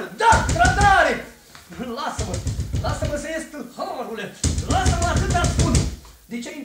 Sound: knocking at the door

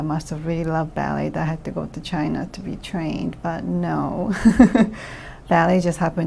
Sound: laughs

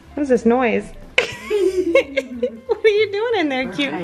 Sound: laughs

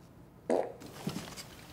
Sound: fart

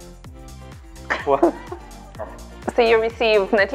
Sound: laughing

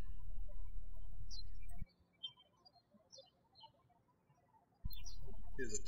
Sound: birds chirping

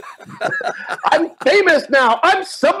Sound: both laugh

